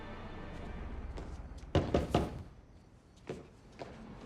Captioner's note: knocking